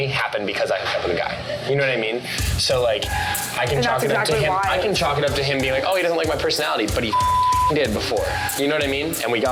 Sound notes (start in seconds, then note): 7.0 beep